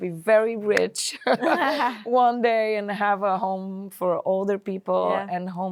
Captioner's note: laughs